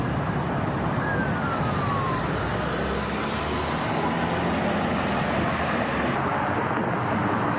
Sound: engine roaring; traffic roaring; siren wailing distantly

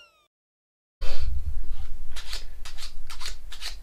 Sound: shuffling korean game cards

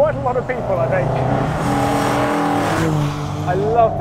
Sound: engine revving

